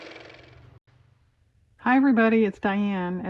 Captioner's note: car motor